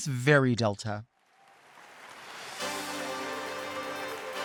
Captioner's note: audience applauds; upbeat music